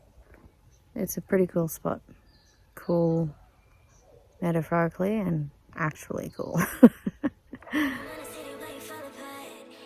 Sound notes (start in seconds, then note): 6.6 chuckles